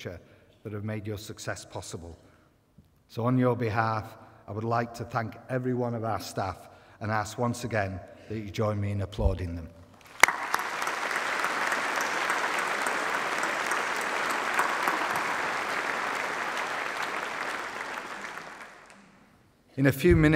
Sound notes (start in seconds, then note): 10.0 applause